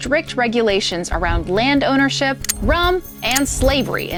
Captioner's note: locks clicking